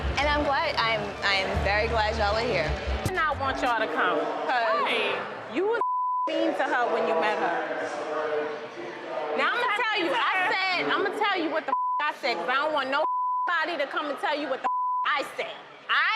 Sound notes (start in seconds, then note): 5.8 beep; 14.6 beep